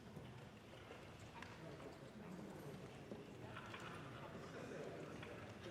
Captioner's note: indistinct crowd chatter